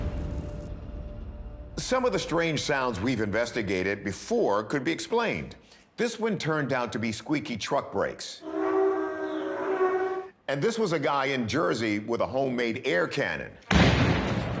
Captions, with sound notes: Some of the strange sounds we've investigated before could be explained. This one turned out to be squeaky truck brakes. [squeaking] And this was a guy in Jersey with a homemade air cannon. [explosion]